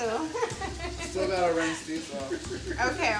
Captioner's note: laughs